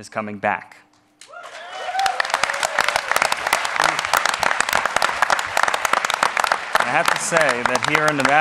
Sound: applause

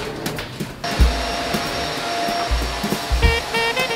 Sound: vacuum whirring

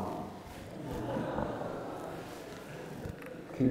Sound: laughter

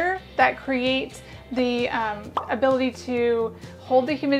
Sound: popping sound goes off as the video thumbnail comes up

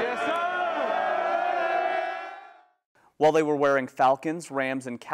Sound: cheering

